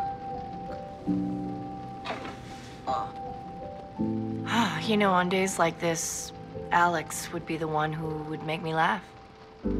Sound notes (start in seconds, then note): 2.5 sighs; 2.8 groans